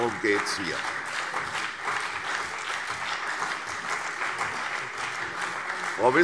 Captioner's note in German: Beifall CDU und BÜNDNIS 90/DIE GRÜNEN